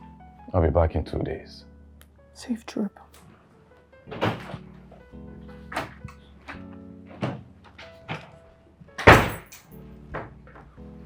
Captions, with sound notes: I'll be back in 2 days. Safe trip. (Door opens) (Door closes)